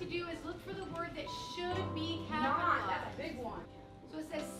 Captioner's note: classroom sounds